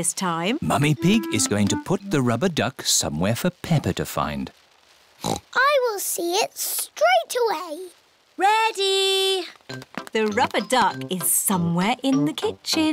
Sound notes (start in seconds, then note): 5.2 oinks